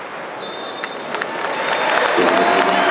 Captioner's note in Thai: เสียงนกหวีดเป่าหมดครึ่งแรก